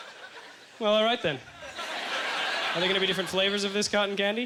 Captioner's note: audience laughter